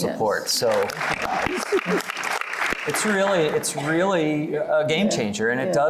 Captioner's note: applause